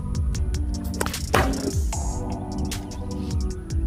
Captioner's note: loud thud